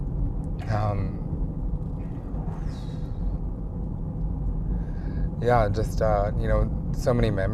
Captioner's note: exhales